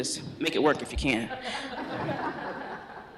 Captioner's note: laughter